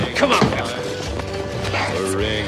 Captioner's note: whispers